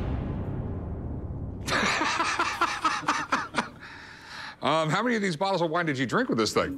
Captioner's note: foreboding music; laughs